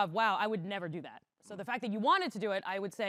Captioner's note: none